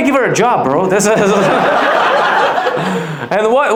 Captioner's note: audience laughs